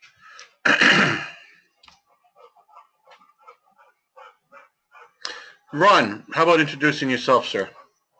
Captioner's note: cough